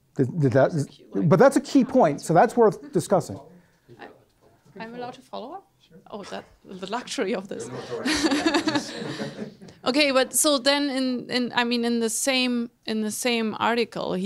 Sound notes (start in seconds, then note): 4.1 voiceover; 7.6 laughs